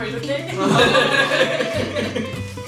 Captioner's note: laughs